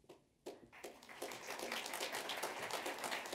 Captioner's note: applause